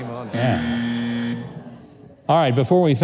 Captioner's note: buzzer blaring